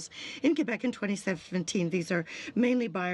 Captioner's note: speaking french